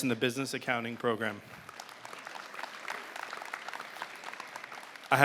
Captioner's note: applause